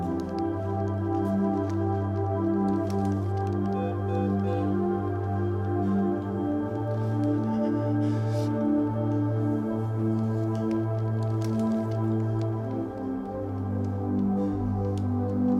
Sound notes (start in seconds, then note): 1.6 breathing shakily; 5.3 beeping; 8.6 soft music